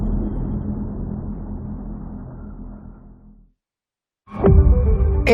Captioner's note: dramatic sound